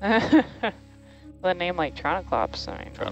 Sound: woman laughing

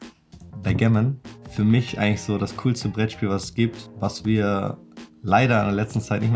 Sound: speaking foreign language

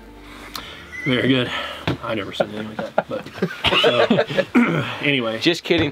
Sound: laughs; clears throat

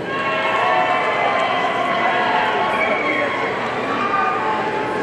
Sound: audience cheering

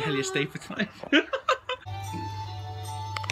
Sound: laugh

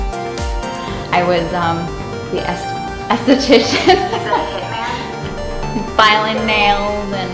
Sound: upbeat techno music; laughs

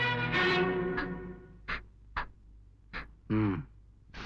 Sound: sobbing

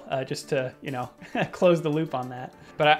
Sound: laughing

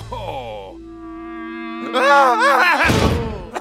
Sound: team laughs; screams

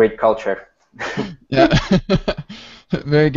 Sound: laughs

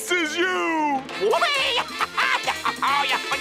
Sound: laughing

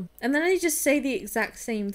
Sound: none

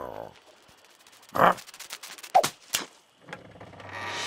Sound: Big Lizard groans; butterfly fluttering; seesaw creaks

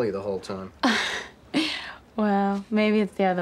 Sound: chuckles

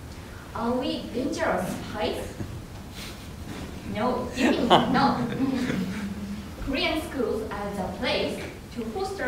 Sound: laughter

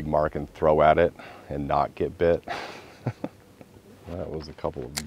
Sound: laughter

